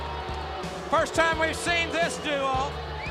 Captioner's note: crowd cheering